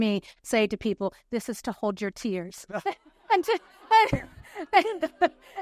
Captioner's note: laughs